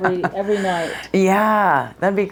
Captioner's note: laughter